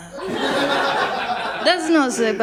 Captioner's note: laughter